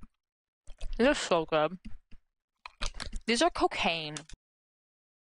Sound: mouth full

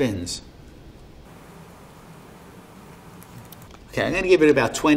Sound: air hissing

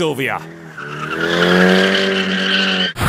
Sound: Dirty SR20 noise and tire screech

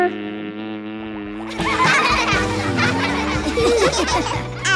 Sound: laughing

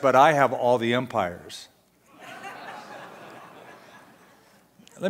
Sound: audience laughter

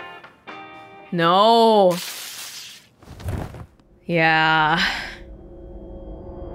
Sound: exhales

